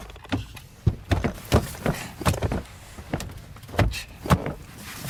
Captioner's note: arms thudding